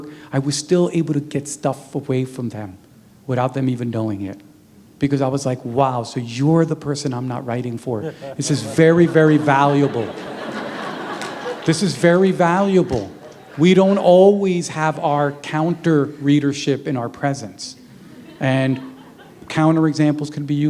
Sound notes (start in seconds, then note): 9.0 laughter